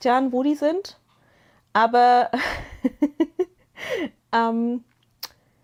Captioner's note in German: gelächter